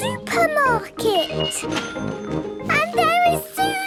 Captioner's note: cash register dinging